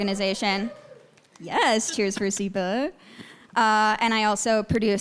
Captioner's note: audience members cheering